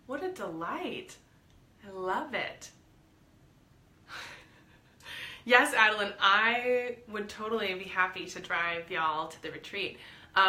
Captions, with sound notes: What a delight, I love it. (laughs) Yes Adeline, I would totally be happy to drive y'all to the retreat.